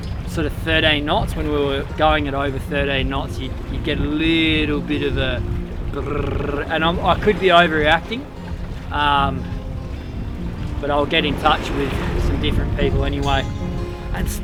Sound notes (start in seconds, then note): 5.8 trills tongue